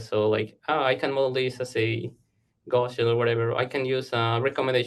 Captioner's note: audio blurs